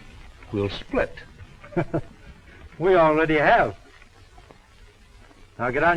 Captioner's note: chuckles